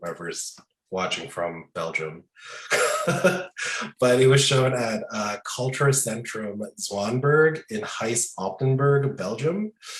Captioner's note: laughing